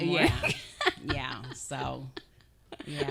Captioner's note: laughing